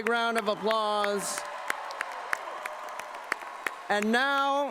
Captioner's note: cheering and applause